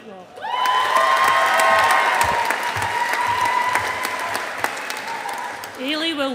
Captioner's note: audience applauding